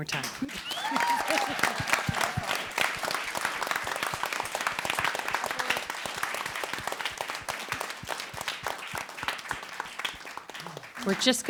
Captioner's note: laughter, applause, cheers